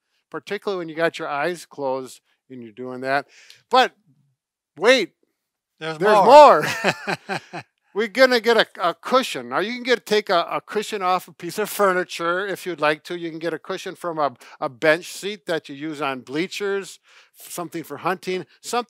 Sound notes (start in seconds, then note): 5.9 laughs